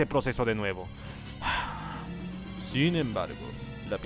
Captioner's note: sigh